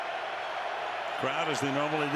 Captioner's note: cheering